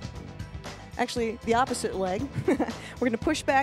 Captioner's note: laughs